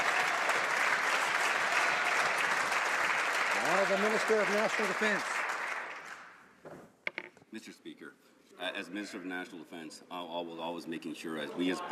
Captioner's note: some Applause